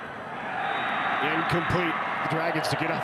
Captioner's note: referee blows whistle